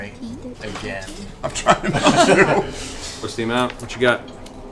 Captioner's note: laughs